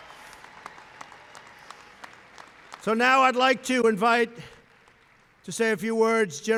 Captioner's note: applause